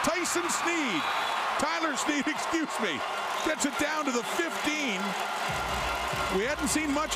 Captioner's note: crowd Noise